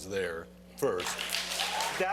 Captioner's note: cheering and applause